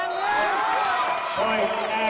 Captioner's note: cheering